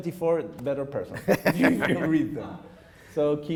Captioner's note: laughing